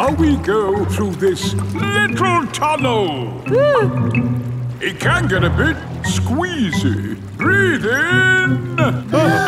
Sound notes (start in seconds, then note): 3.8 whimpers